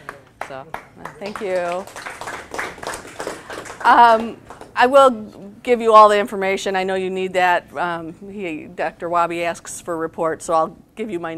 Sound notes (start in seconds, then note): 1.8 audience applause